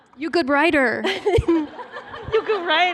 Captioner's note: laughter